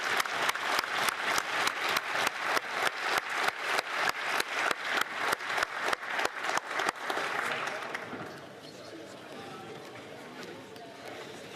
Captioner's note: applause